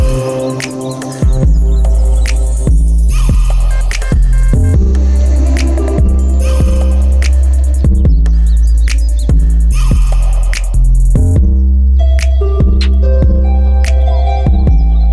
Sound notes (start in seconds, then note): 7.6 chinese language